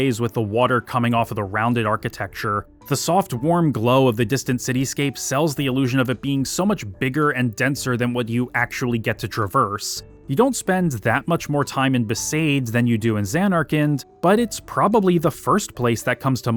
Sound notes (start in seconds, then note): none